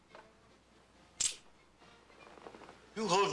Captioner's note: cocks gun